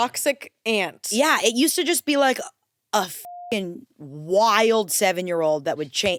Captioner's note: beep